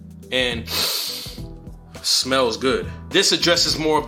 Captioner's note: sniffs